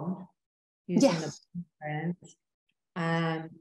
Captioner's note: chuckling